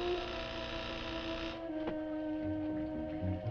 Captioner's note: door buzzing